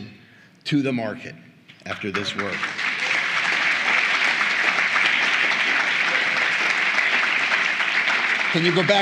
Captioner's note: applause